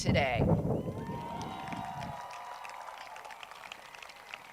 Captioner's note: crowd cheers